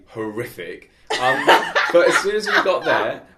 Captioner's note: laughing